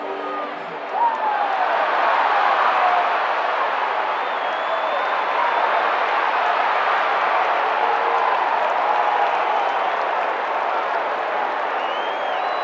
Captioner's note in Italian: Applauso